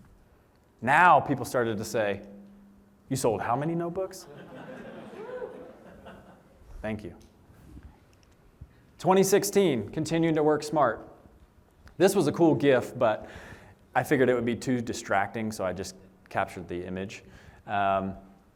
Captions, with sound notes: Now people started to say, "You sold how many notebooks?" [LAUGHTER] Thank you. 2016, continued to work smart. This was a cool GIF, but I figured it would be too distracting, so I just captured the image.